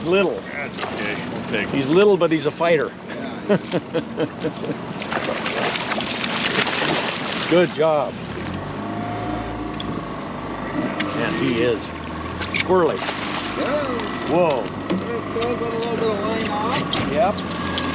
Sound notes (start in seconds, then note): 4.6 chuckling; 4.7 fish splashing; 7.9 boat engine running; 11.9 fish splashing